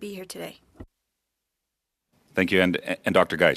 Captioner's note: speaking French